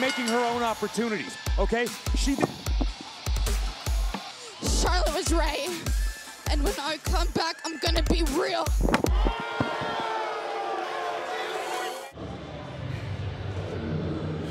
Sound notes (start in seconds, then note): 8.9 crowd cheering